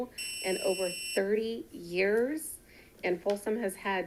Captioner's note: buzzer buzzing continues